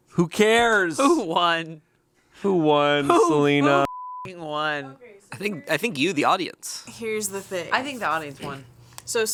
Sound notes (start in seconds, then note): 3.8 beep